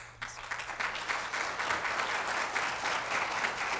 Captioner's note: applause